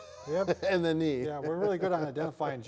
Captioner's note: laughs